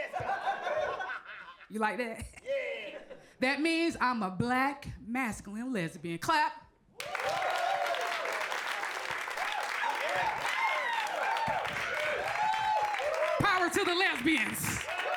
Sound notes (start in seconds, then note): 7.0 audience cheering; 7.0 audience clapping